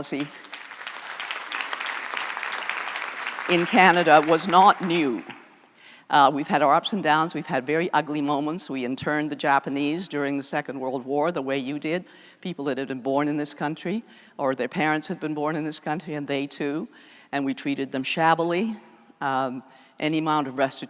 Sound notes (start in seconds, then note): 7.4 applause